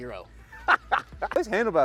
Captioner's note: laughs